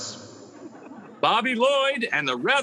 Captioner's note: audience laughing